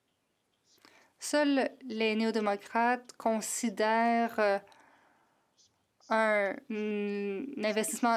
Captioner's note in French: voix de l'interprète